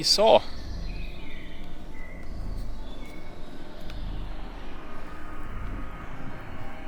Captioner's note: birds chirping; suspenseful music